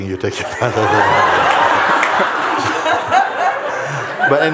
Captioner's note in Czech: smích